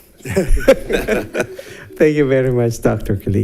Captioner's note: board members laugh